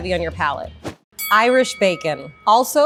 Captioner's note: bell rings